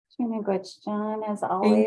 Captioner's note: speaks in foreign language